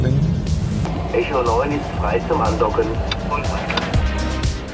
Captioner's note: radio message